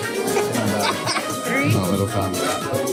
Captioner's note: laughs; upbeat Latin music